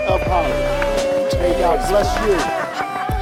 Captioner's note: group cheering